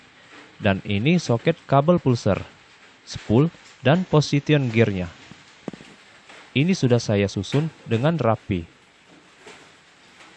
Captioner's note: alternator